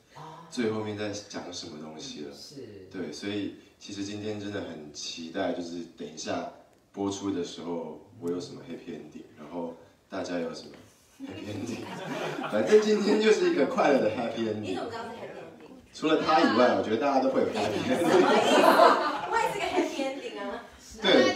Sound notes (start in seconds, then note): 17.6 everyone laughs